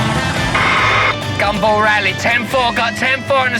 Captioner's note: imitating radio voice